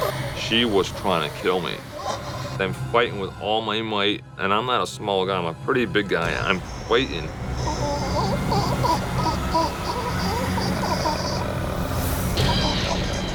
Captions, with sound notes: She was trying to kill me. I'm fighting with all my might, and I'm not a small guy. I'm a pretty big guy, and I'm fighting. (choking)